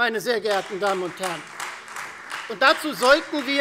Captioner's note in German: Beifall Freie Demokraten